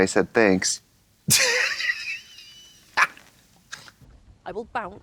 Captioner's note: Katya chortles